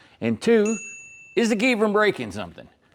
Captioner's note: ding